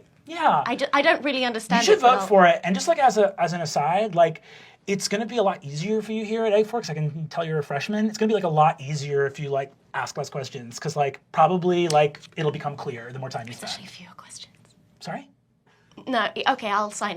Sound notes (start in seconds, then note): 14.0 quiet